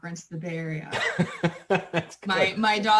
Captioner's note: laughs